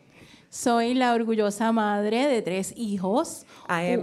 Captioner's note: speaking in foreign language